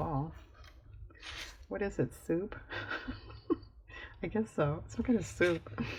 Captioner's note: laughs